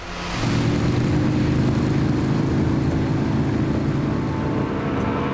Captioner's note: engine racing; gentle music